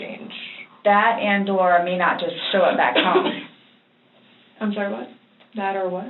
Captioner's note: coughs